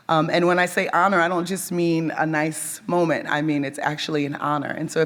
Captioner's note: none